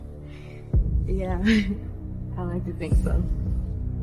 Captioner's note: chuckles